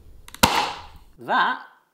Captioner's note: chocolate cracks